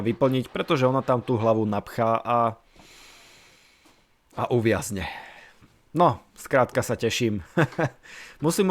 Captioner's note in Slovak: smiech